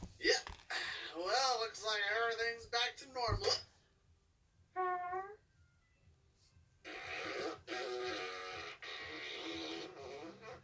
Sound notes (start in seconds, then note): 4.8 fart; 6.8 autotuned fart